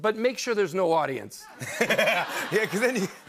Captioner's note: laughter